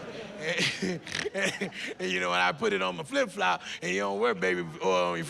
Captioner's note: laughs